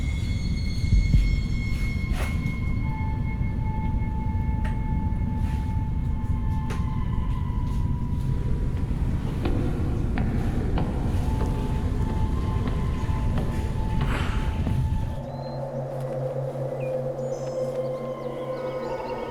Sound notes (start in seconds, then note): 9.3 footsteps echoing; 15.2 wind whooshing